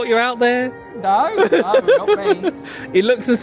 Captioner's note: laughing